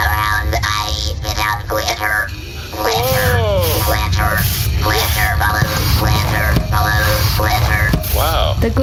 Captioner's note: shooting